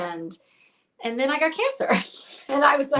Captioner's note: laughs